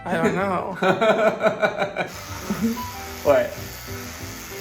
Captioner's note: laughing